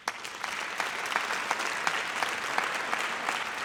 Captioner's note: audience applauds